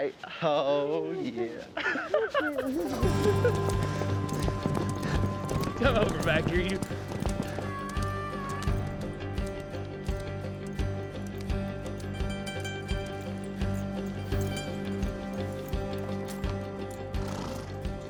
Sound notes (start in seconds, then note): 0.2 laughing; 3.6 hoofbeats